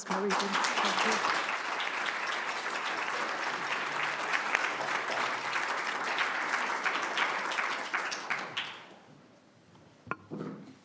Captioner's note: applause